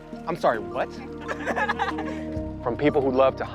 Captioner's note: all laughing